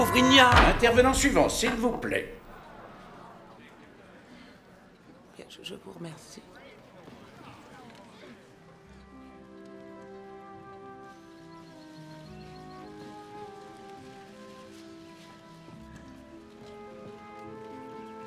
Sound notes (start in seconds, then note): 0.1 gavel bangs; 2.2 crowding grumbling; 10.3 languid music